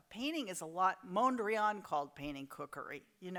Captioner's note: none